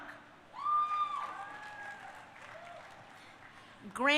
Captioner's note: crowd cheering